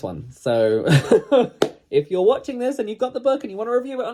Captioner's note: laughs